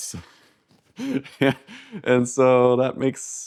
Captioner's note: laughs